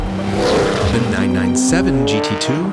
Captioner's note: engine revs